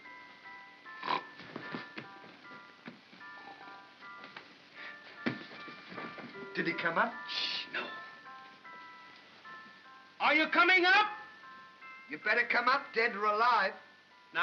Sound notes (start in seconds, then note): 1.0 Stan snores; 2.8 soft nursery music